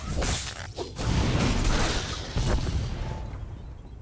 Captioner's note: gunshot